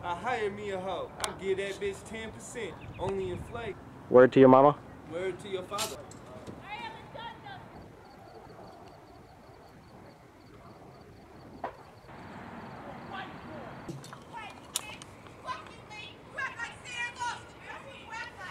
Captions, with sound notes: "I'll hire me a hoe."^ ^"I'll give that bitch ten percent." "Only in flake."^ "Word to your momma?"v "Word to your fatha."^ ^"I haven't done nothin!" (Ambient crickets) (Thud) ".....WHITE BOY!" ^"Crazy bitch!" "Fuck you man, you act like santa claus!"^ "That's what you act like!"^